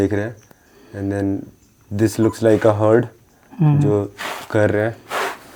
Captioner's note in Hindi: नाक से की जाने वाली आवाज़